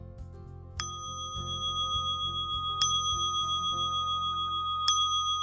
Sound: gently chiming bell

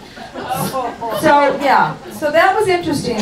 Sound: audience groans and chuckles

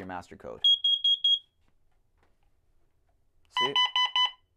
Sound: high-pitched beeping

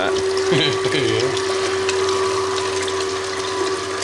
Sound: laughing

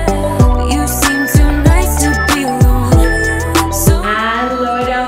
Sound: countdown timer beeping

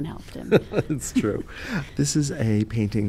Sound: laughs

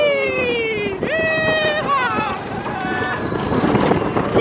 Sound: they laugh

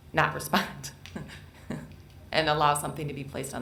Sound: chuckles

